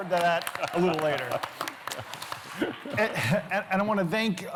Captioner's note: applause